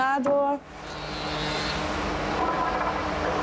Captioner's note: planing noises